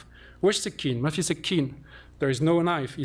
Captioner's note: non-english